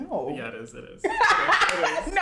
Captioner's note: laughs